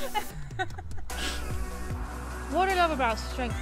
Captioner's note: laughs; exhales sharply